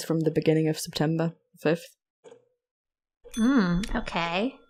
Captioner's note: bell dings